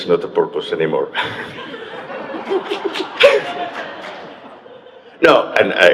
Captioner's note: audience members chuckle